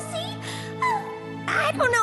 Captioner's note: sighs